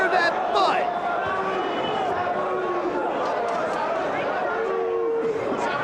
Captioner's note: spectators chanting "Sabu!"